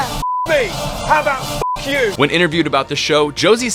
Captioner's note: beep